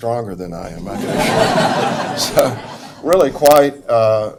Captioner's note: audience laughs